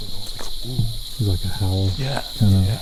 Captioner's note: imitating howl